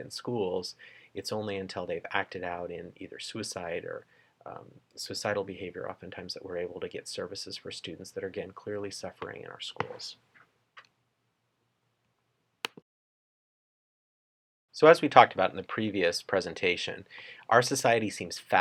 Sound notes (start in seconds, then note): 12.6 clicking noise